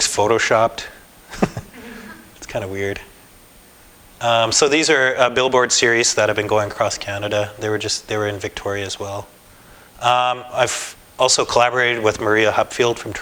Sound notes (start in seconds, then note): 1.3 laughter